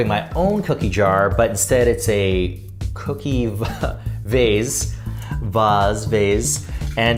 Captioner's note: chuckling